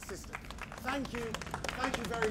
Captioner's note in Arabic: الجمهور يصفق